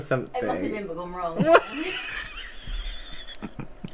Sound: wheezing Laughter

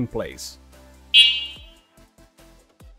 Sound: horn Sound

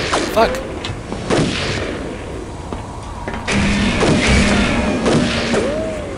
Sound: gunshots and rifle fire

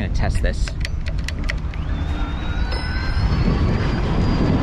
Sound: gear shift

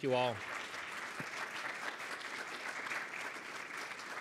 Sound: audience clapping

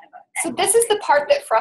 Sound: voiceover

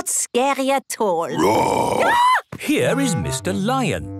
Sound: roar, scream

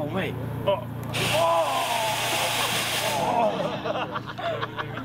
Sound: crew Laugh

